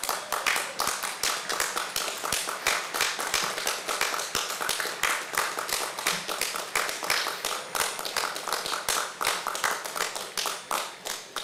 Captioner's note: applause